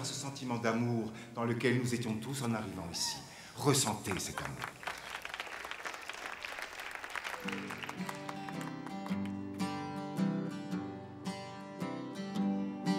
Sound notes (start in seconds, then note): 4.1 light clapping; 7.4 guitar strumming